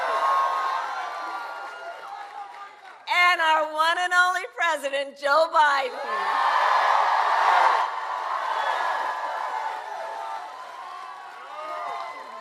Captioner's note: applause